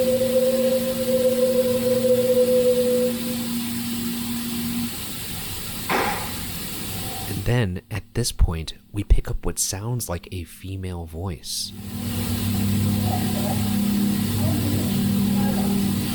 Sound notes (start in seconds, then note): 5.9 object thumps